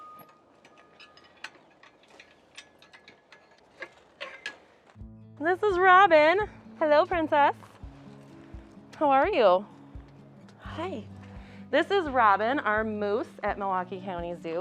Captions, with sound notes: (metal clanking) This is Robin. Hello princess. How are you? Hi, this is Robin, our moose at Milwaukee County Zoo.